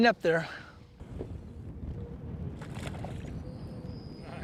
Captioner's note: splash